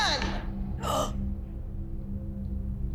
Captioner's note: gasps